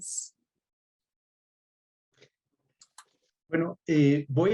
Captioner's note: speaks Spanish